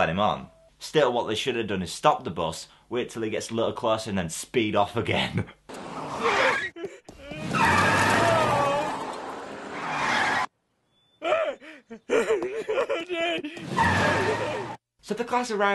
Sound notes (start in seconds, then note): 5.2 chuckles; 5.7 brakes; 6.6 sounds of gasping and moaning; 9.6 brakes